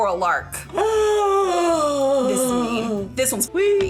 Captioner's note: gasping